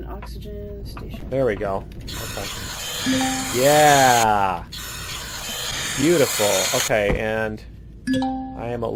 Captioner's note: oxygen filling